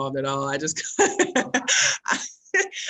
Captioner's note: laughs loudly